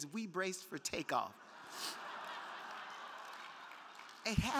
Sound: crowd laughing

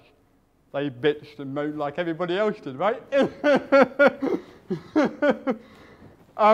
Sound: laughs

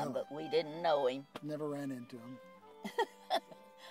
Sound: chuckles

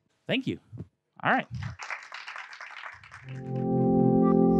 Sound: applause

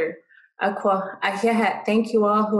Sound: speaking dine language

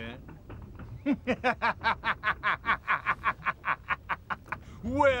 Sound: laugh

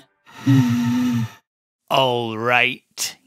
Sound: labored wheeze

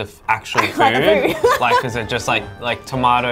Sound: laughing

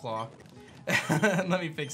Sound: laughs

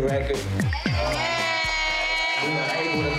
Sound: audience cheering

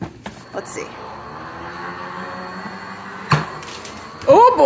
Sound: machine whirs

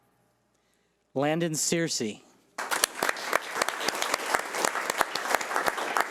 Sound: audience applauding

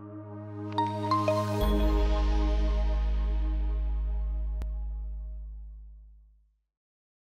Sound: logo chiming

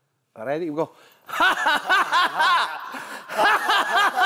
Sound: they are laughing as they are jumping around

